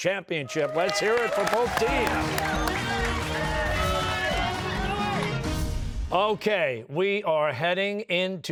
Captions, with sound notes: This is very close for the championship. Let's hear it for both teams. (cheers and applause)